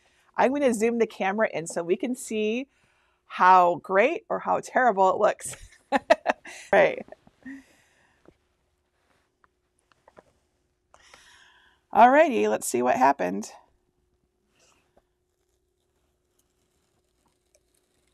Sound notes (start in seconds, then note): 5.8 laughing